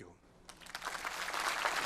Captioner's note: applause